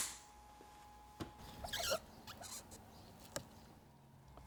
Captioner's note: machine whirring